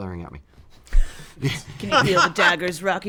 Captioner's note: laughs